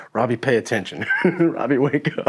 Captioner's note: laughing